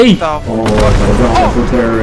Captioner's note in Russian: бум